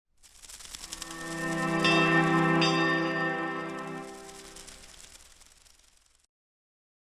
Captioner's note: wings flutter; bell rings